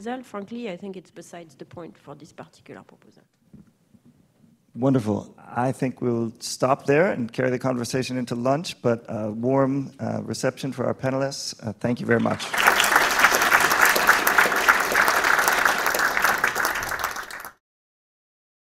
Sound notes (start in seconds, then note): 12.1 audience clapping